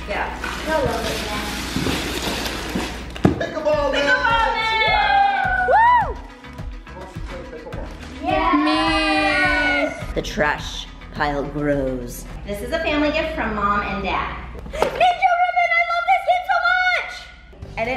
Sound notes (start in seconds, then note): 4.0 kids cheering